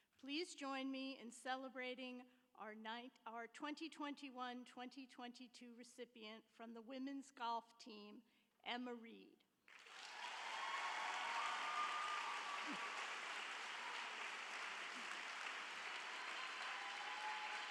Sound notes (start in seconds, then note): 9.7 audience applauds; 9.8 audience cheers